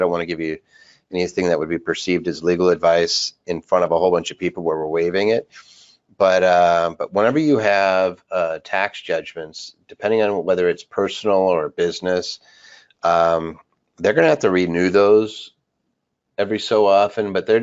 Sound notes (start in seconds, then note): none